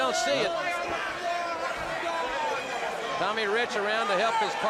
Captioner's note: crowd cheering